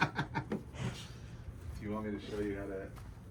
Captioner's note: laughs